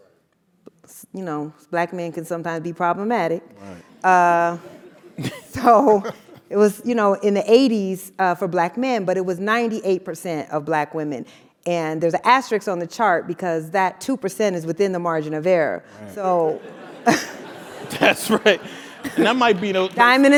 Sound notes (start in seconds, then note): 4.7 laugh; 16.1 laugh